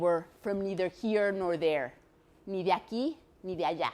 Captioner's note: speaks foreign language